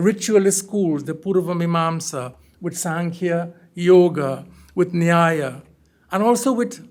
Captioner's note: hindi